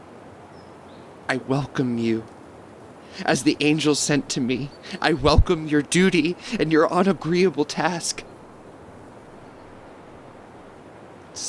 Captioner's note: shivering